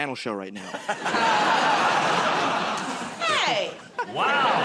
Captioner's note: laughter